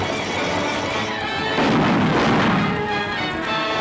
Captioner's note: gunshots